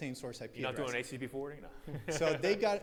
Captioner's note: laughs